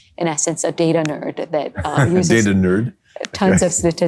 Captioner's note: laugh